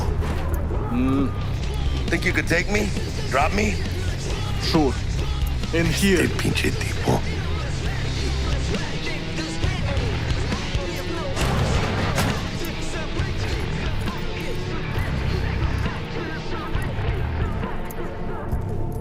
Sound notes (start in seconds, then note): 7.9 rock music playing; 7.9 speaking in foreign language